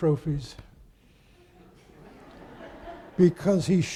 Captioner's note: audience laughing